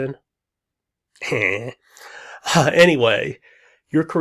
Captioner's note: laughs